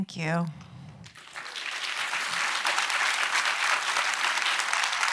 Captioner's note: audience applauds